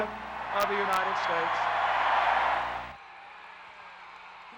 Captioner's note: cheers